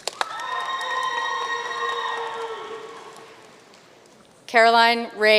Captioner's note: audience cheering and applauding